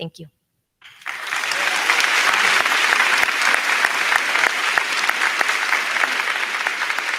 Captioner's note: crowd cheering; crowd clapping